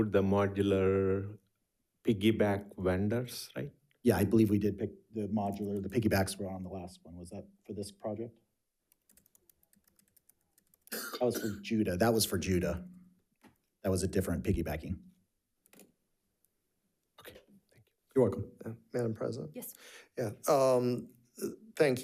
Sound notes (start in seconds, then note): 8.9 keyboard clicking